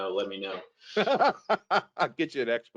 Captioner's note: laughs